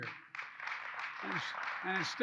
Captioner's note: applause